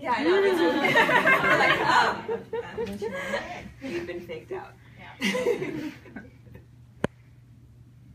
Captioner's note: people laugh